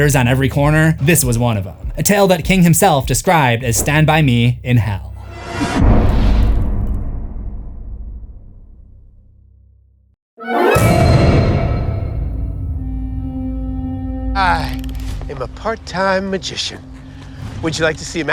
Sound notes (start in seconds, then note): 5.6 impact